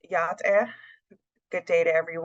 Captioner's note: speaks Native language